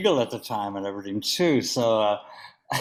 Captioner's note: laughs